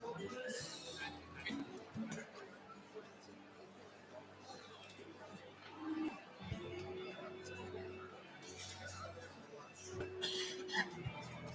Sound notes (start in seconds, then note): 0.0 chatter